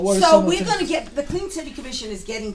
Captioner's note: voiceover